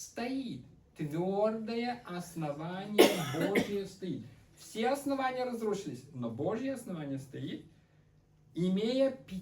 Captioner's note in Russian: кашель